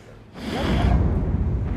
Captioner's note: sighs